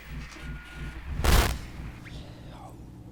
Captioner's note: static